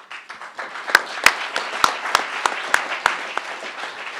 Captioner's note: crowd applauding